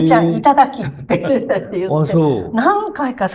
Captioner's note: laughs